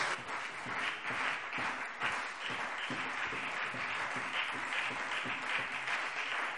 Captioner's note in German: Beifall CDU und BÜNDNIS 90/DIE GRÜNEN